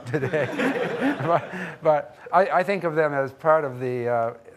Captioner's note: audience laughing